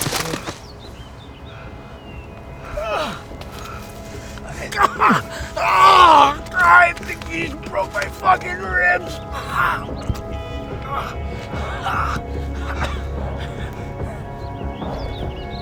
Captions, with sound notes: [winces] I think you broke my fuckin' ribs. [soft somber music]